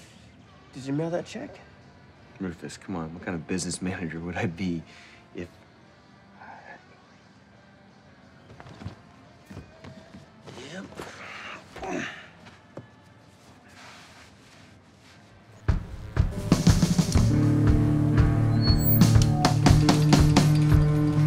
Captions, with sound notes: did you mail that check? Rufus, come on. What kind of business manager would I be if... Yep. (Rufus grunts) (guitar strumming) (drum banging)